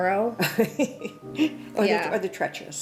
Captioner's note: laughing